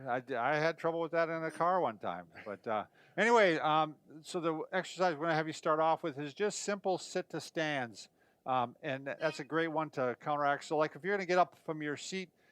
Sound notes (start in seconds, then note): 8.5 chair squeaking